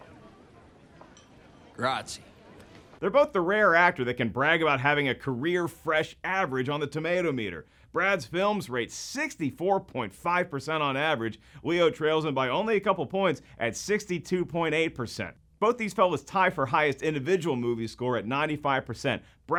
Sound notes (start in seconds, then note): 1.6 speaking foreign language